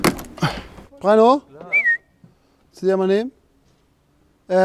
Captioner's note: pfeift